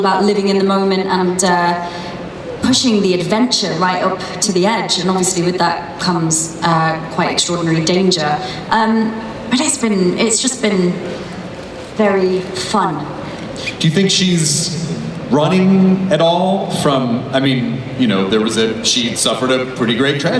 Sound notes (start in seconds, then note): 14.1 voiceover